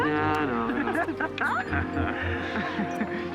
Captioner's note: laughs